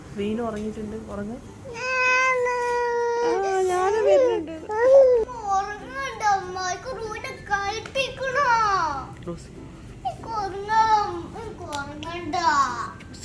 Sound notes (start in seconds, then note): 1.7 baby sounds